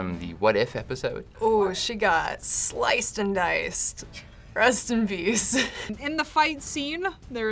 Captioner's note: laughs